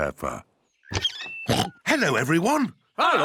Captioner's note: oinks